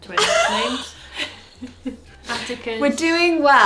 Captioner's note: laughs